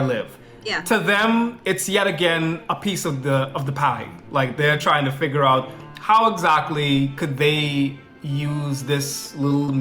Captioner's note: foreign